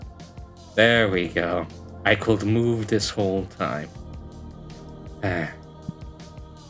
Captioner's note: sigh